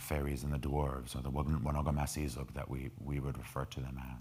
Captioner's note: speaking in foreign language